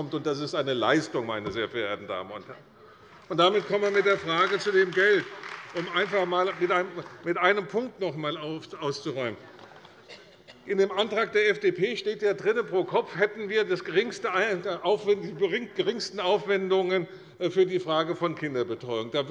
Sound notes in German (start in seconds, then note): 3.2 Beifall bei der CDU